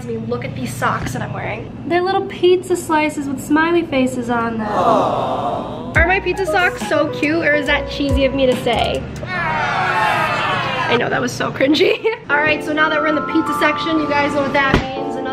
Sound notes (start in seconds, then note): 4.7 audience oohs; 9.2 audience exclaims